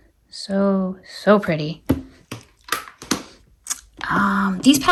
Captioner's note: item thudding